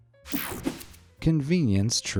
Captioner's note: screen whooshing